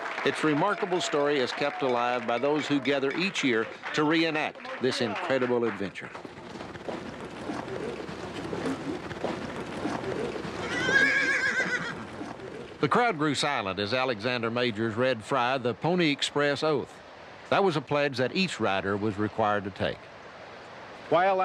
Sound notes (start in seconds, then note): 10.9 horse whinnying